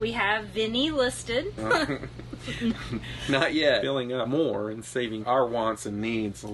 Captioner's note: laughing